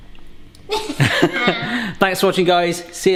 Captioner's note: laughing